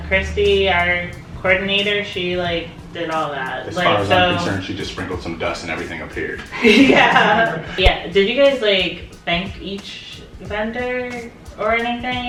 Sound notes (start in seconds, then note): 6.5 laughter